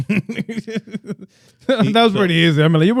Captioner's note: laughs